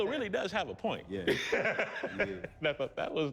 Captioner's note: laughter